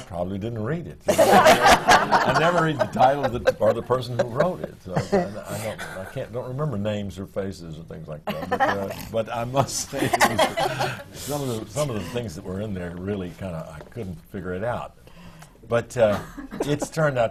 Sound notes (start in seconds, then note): 1.0 laughter; 9.9 laughs